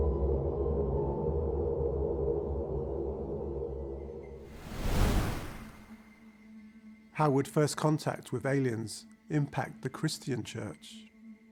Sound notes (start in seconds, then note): 4.5 wind whooshing